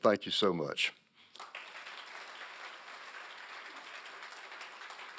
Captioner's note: applause